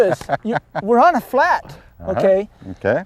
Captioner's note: laughter